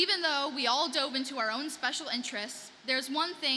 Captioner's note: none